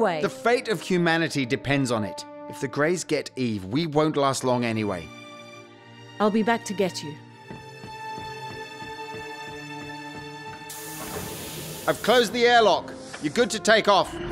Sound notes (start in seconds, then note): 10.6 airlock closes